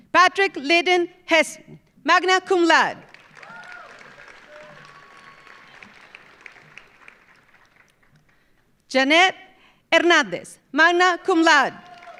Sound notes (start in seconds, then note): 3.0 audience applauding; 3.2 audience cheering